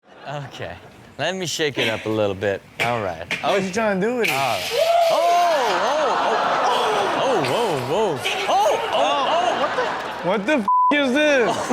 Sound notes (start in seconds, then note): 4.5 gasps; 5.6 audience laughs